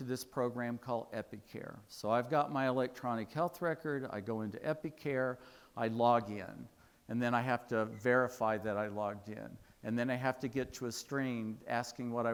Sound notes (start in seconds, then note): none